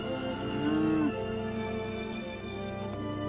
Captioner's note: gentle upbeat music; cows mooing; gentle upbeat music